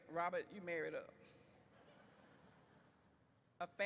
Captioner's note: audience laughs